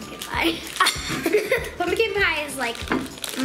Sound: giggles

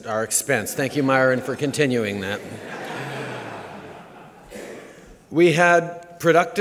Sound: laughter

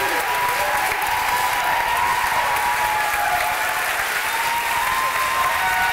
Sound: cheering

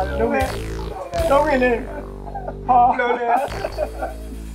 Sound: both crying

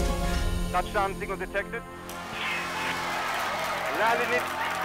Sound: clapping and cheering

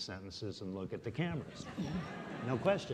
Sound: audience laughing

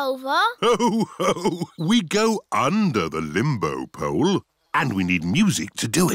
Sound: laughs

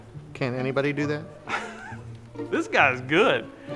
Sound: chuckles

